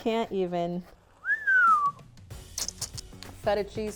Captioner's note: whistles